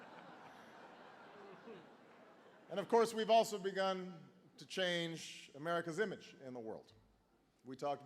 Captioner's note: laughter